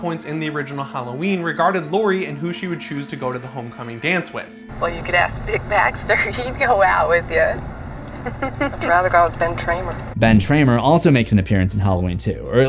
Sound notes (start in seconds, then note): 7.8 laughs